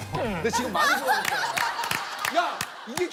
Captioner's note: laughter